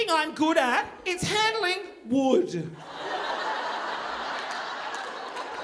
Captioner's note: audience laughing; audience clapping